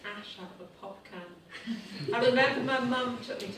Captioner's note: participants giggle nervously